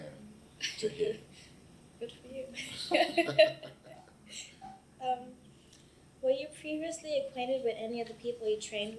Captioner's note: both laugh